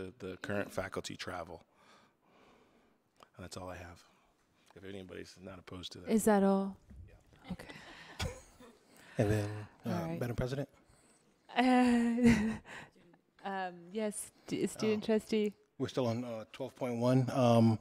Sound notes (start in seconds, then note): 7.5 people chuckling; 11.8 laughs